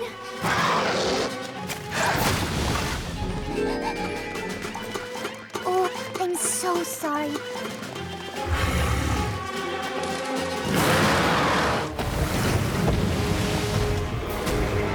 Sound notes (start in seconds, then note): 0.3 growls; 1.2 gasps; 3.2 panting; 8.4 growls; 10.6 roars